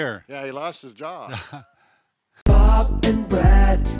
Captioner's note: laughs